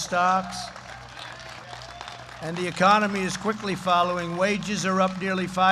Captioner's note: applause